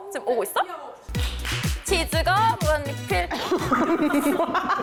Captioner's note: clap